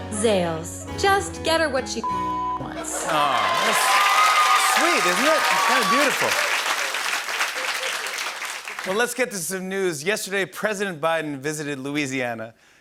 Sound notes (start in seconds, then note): 2.8 cheering and applause